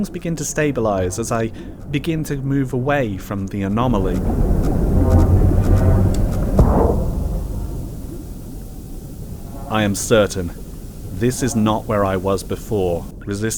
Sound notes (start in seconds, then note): 4.3 energy waves begin to fade; 6.5 boom